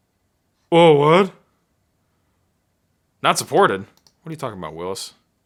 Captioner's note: mumbling in deep voice